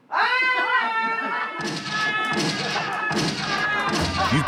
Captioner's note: gunshots